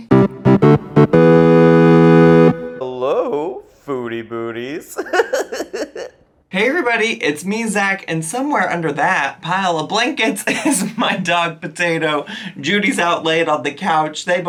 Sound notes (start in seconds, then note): 0.0 cheerful music; 4.8 laughs